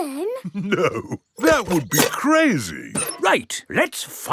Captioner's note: chuckling